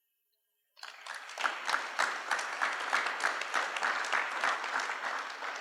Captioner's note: applause